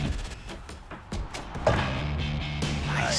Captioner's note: tapping